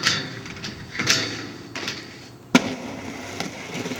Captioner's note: metal clanging